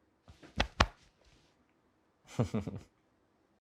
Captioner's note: hand thumps; chuckles